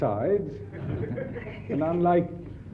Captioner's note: audience laughs